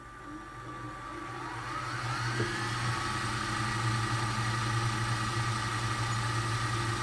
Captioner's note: VHS player spool-up